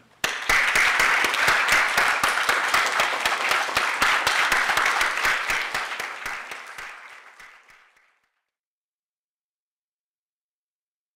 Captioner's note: applause